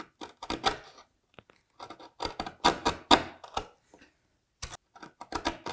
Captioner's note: chisel on wood scraping